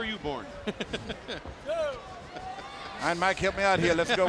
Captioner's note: chuckling